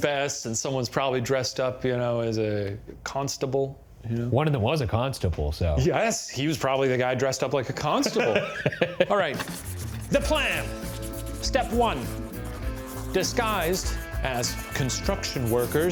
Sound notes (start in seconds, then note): 8.0 laughing